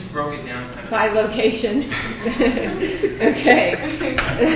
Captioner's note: laughs